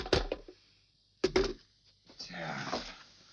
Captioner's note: phone clattering